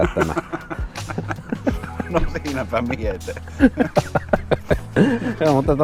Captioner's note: laughter